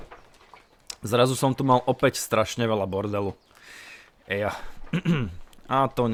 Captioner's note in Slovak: kašeľ